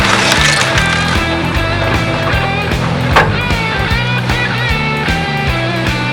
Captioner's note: wood breaking